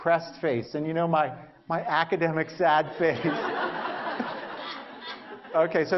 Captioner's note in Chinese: Laughter; 笑聲